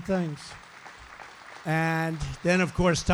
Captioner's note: applause